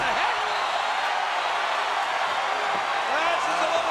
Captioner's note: crowd cheering